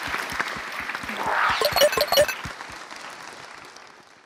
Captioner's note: applause; applause